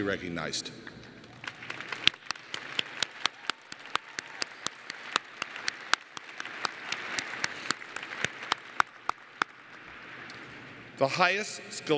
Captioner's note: applause